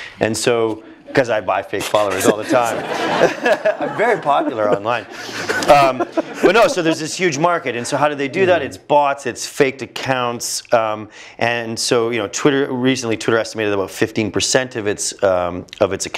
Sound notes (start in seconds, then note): 1.8 laugh